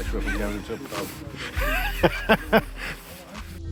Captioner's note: laughter